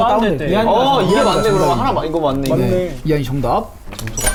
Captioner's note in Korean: 후훗; 후훗